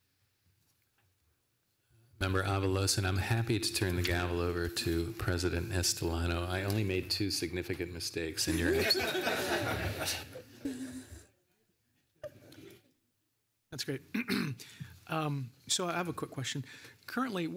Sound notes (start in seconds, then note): 11.7 laughter